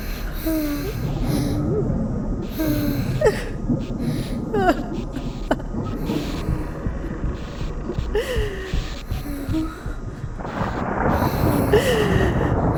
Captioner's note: mother sobbing